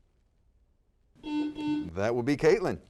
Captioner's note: buzzer sounds